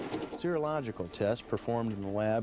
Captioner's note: voiceover